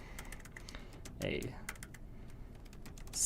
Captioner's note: typing Noises